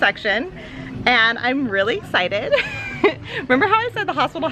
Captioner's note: laughs